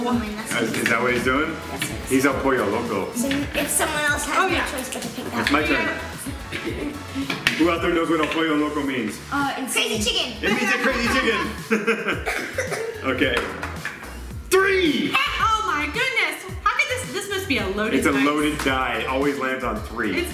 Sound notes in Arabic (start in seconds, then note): 10.8 يضحك